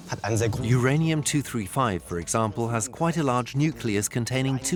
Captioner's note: in German; dubbed in English